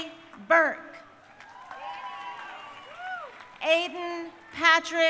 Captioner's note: crowd cheering